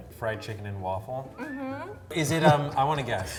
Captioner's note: laughs